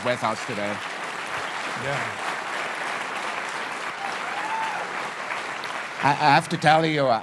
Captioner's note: cheers and Applause